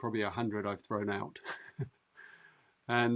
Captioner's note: laughs